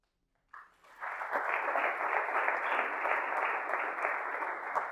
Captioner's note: audience applauding